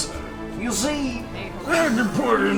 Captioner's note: Cosby voice